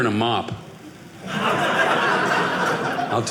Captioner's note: audience laughing